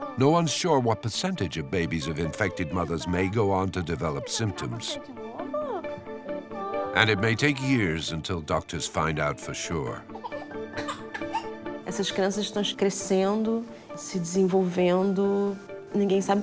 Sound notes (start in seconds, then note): 10.0 baby fussing; 11.8 speaks in foreign language